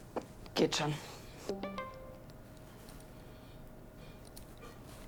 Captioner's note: incoming message